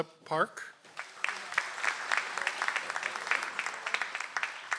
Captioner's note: audience applauds